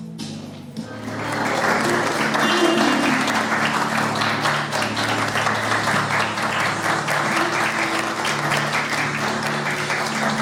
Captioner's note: crowd applauding